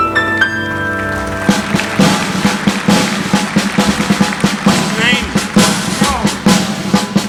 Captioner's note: relaxing piano music continues; audience applauding; upbeat drumming music